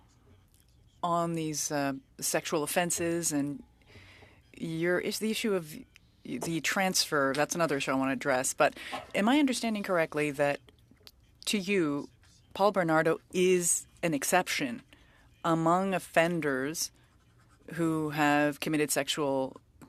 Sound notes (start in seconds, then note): 0.8 speaking French